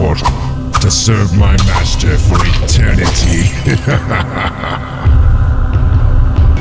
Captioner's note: evil laughter; 邪惡笑聲